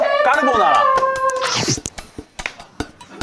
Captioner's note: gulp